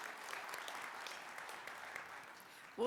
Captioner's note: applause